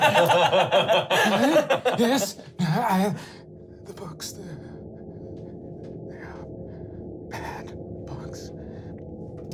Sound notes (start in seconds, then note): 0.0 laughing; 3.2 gasping